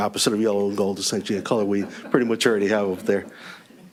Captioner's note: laughter